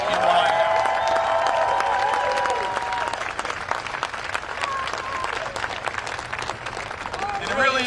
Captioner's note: cheering and applause